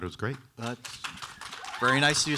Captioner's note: audience applauding